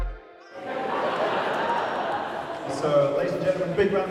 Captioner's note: audience chattering